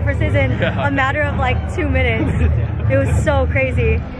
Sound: man laughs

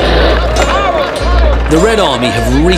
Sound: people cheering

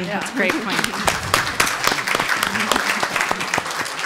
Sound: applauding

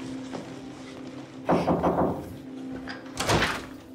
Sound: knock on door

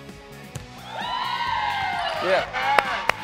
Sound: cheering; clapping

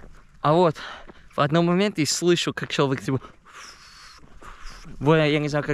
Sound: whistling

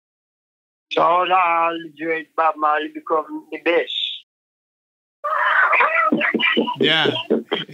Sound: laughs

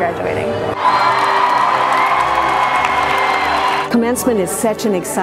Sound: cheers

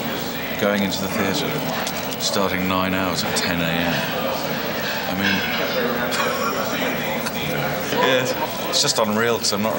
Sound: laughing

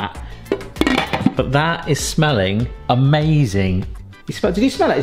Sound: lid clanks on

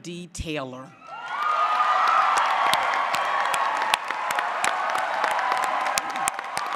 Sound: applause; cheering

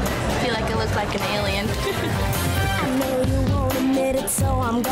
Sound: laughs

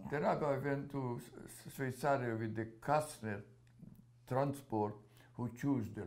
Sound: non-english

